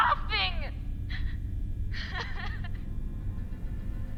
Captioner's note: transient cries hysterically